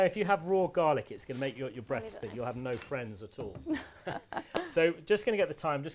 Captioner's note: laughs